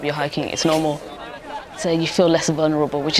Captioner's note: hikers chatting